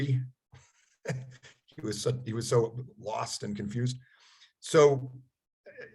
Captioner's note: chuckles